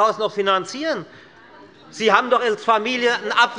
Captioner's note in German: Zurufe von der SPD